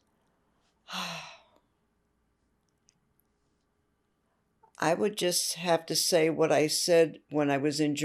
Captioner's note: sighing